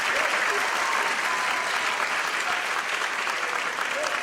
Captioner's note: applause